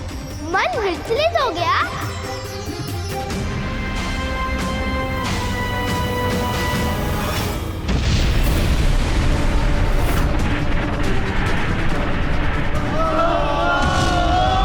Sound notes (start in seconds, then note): 7.8 explosion; 13.0 screams